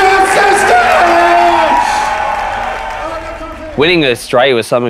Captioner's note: loud ovation